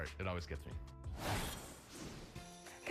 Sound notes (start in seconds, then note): 1.1 logo whooshes